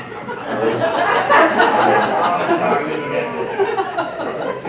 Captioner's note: laughing